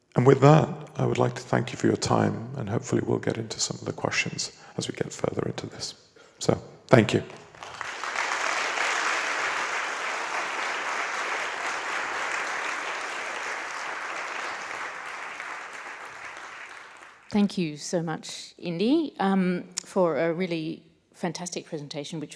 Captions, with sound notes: And with that, I would like to thank you for your time and hopefully we'll get into some of the questions as we get further into this. So, thank you. (audience applauding) - Thank you so much, Indy, for a really fantastic presentation,